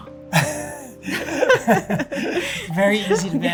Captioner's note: both laughing